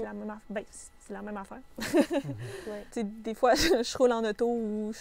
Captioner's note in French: rires